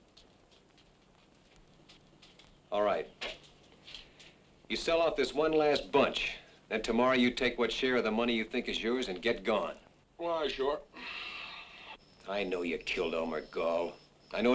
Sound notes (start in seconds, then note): none